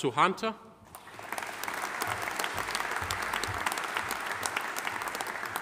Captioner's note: audience applauding